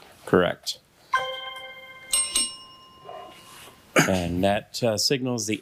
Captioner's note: bell ringing